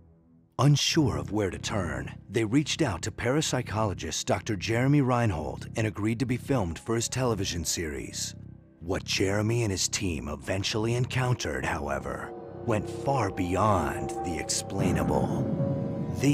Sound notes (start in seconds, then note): none